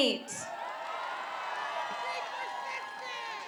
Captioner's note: applause